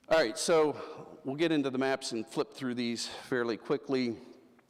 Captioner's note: none